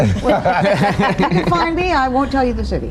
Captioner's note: all laughing